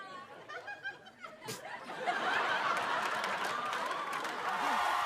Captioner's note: chuckles; cheers and applause